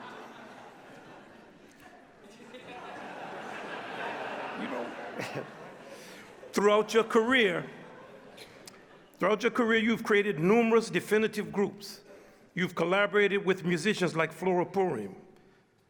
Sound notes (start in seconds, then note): 5.6 chuckles